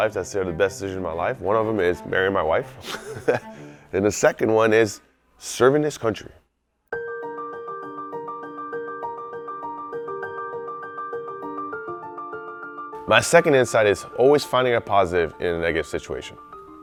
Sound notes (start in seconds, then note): 2.8 laughs; 7.0 playful piano music